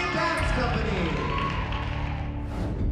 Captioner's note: crowd cheering